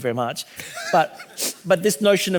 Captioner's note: laughing